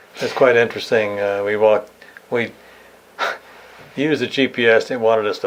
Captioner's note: laughs